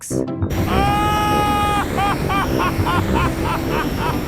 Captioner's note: excited screaming, laughing